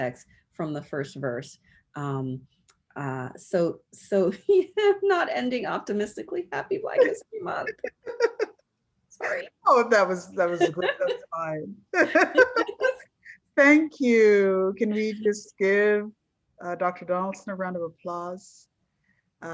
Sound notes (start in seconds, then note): 3.5 laughs; 9.4 laughs